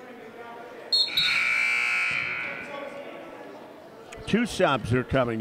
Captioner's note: whistle blows; buzzer sounds